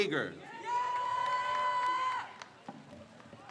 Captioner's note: crowd cheers